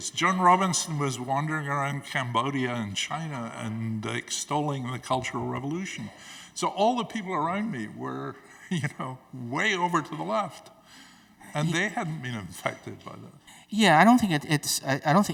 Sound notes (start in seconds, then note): 8.5 Angus chuckles